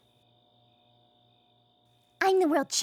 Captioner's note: crickets chirping